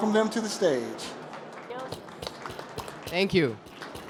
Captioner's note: applause